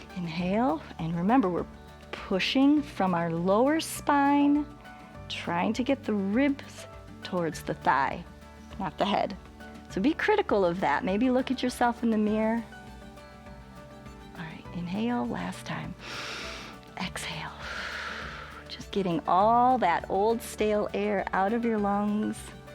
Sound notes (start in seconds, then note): 16.0 inhales; 16.0 exhales